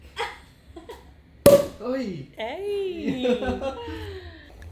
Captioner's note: cork popping; laughing